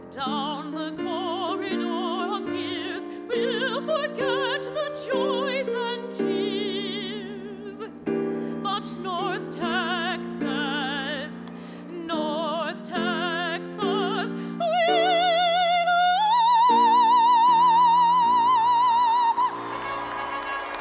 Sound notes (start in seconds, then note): 19.1 instrumental music; 19.4 audience applauding; 19.4 audience cheering